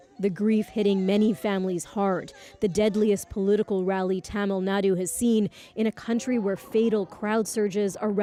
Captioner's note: crying